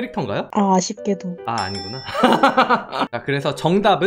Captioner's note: laughs